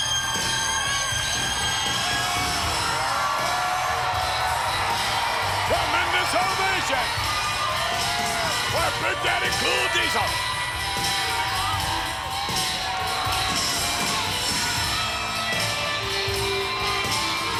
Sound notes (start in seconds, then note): 10.4 crowd cheering; 10.4 upbeat rock music